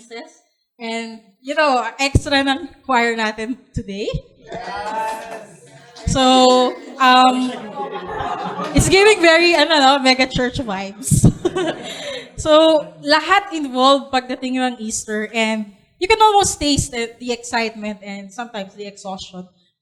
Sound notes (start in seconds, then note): 4.6 cheering, clapping